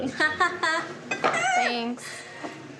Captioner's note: laughs